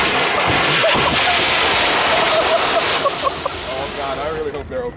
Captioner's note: laughing